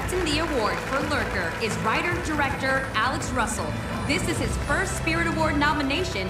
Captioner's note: applause